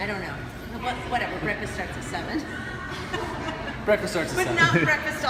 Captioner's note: laughs